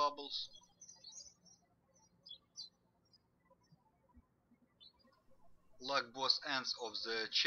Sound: birds chirping

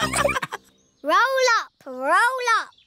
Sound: all laughing

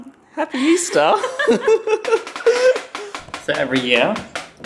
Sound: couple laughing

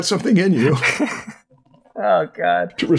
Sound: laughter

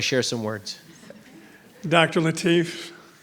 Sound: board members tittering

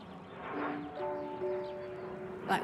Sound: plane engine roars in distance, birds chirp

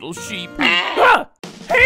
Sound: bleating

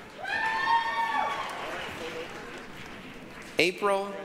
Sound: applause, cheering

